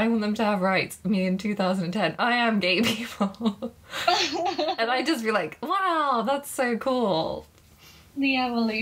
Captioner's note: laughing